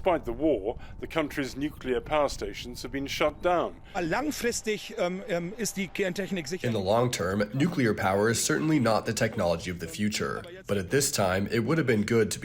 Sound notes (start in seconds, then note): 5.7 through translator